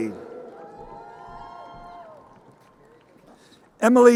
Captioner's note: crowd cheering